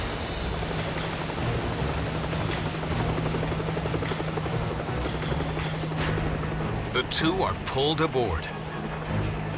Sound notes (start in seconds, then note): 2.0 helicopter roaring